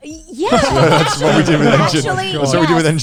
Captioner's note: all laughing